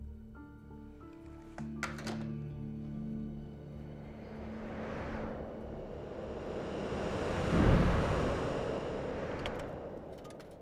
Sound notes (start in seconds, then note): 7.3 whooshing